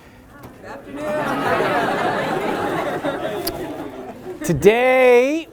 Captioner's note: laughter